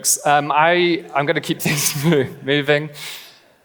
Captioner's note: laughing; laughs